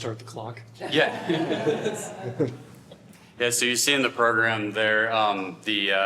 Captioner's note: laughter